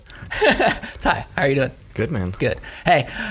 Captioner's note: laughs